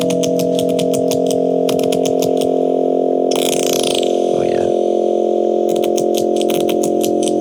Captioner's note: sound effects buzzing and clicking continues